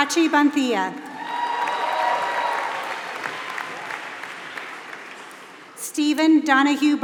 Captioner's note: applause